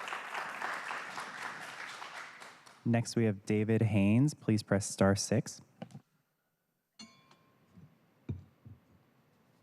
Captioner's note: applause